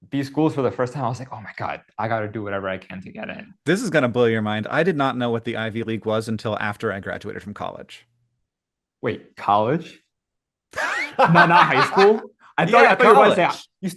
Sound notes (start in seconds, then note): 10.7 Hank laughs